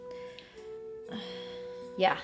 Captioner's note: Aisling sighs